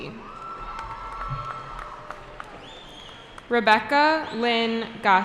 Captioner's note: cheering